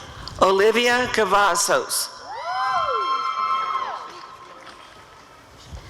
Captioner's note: audience cheering